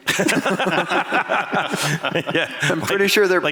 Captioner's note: laughter